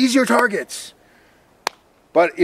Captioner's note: smacks fist